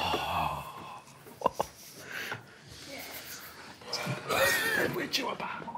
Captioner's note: group collectively exhales; group quietly laughing